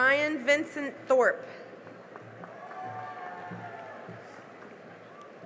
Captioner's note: cheering and applause